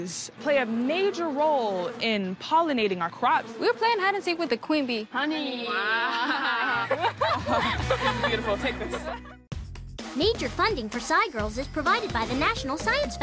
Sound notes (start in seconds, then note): 5.5 SciGirls laugh